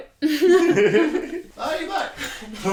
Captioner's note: both laughing